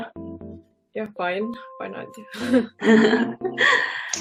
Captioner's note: laughs